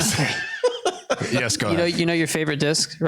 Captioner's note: laughter